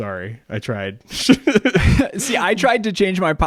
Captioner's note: laughs